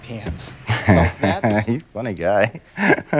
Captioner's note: laughs